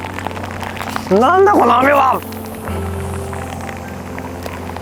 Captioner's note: rain is picking up